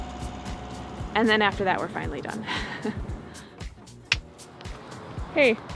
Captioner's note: giggles